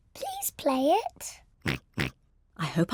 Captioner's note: snorts